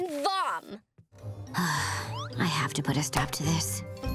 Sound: sighing

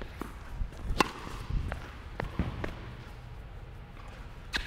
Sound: tennis ball slams

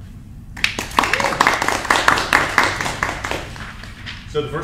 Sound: crowd claps

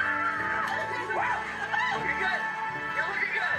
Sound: people cheering

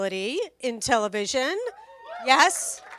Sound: cheers and applause

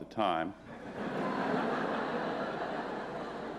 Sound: laughter

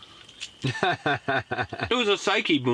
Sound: laughing

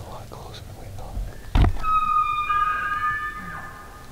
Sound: elk bugling

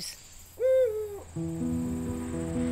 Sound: owl hooting; slow-tempo soft piano music

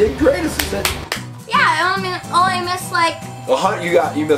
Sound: assistant applauding

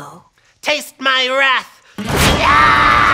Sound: screams

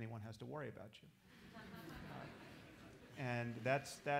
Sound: laughter

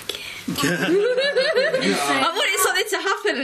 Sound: laughing

